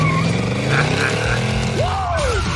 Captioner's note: laughs